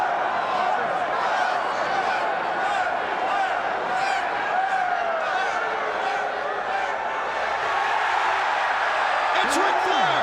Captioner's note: crowd chatter